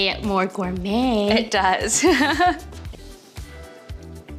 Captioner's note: laughs